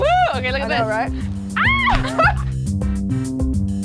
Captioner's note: exclaiming; upbeat music